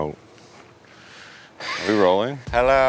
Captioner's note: wheeze laughs